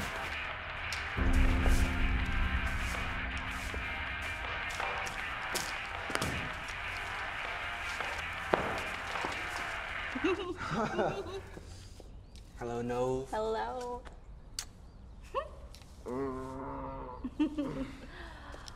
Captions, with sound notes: [bell] [giggles, nervous laughter] Hello, Nov. Hello. [kiss] [laughs] Hnnnnn. [giggles]